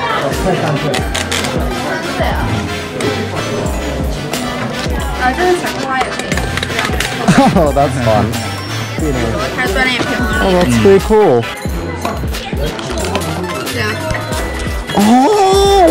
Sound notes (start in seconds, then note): 0.8 grinding; 5.9 clicking; 9.2 speaks Chinese